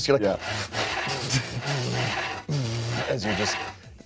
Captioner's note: wood scrapes